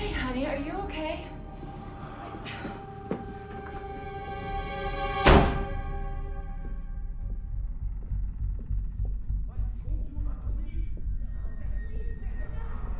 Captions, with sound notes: - Hey honey, are you okay? (tense music) (door bangs) - I told you not to leave. - Please, no.